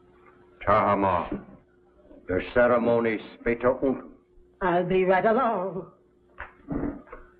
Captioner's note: speaks german